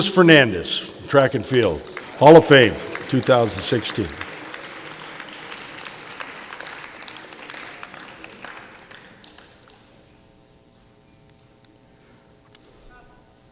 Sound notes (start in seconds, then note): 4.1 clapping